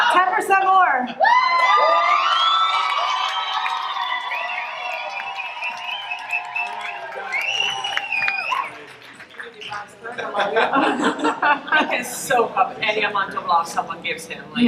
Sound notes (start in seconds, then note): 1.2 audience cheering and clapping loudly